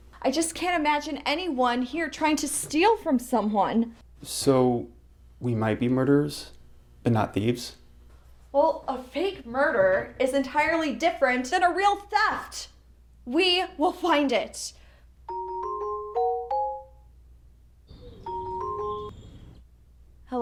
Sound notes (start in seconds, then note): 14.5 phone rings